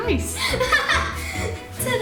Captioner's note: laughs